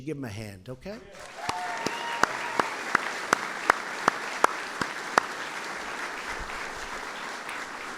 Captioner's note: applause